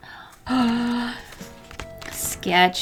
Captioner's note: new sketchbook noises